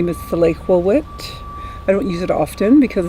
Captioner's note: truck reverse beeping